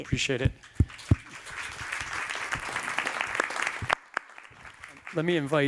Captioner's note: applause